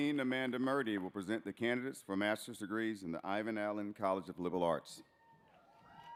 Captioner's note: applause